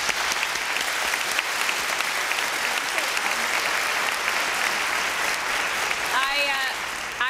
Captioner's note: applause